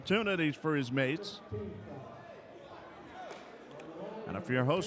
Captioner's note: crowd chattering